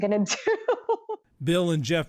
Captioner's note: laughter